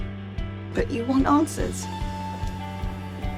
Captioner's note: voiceover